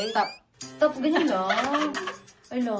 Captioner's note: laughs